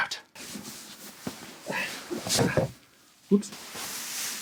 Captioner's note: costume rustling